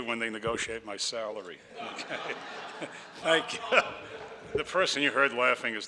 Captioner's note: audience laughs